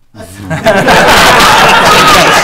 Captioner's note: group laughing